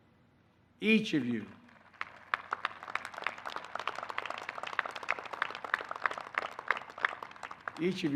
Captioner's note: applause